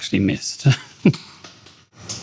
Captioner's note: laughs